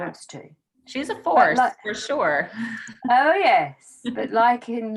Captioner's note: laughs